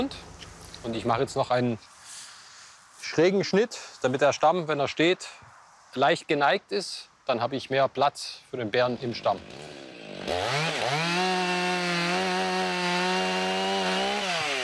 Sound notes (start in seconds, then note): 9.0 chainsaw noise